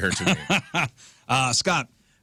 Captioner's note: laughing